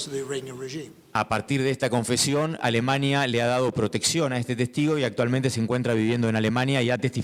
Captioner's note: speaking in foreign language